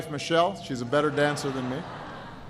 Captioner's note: laughter